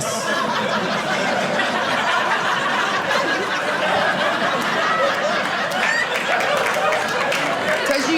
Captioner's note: audience laughing